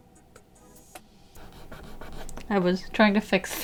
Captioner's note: the sound of scrubbing away the evidence of mistake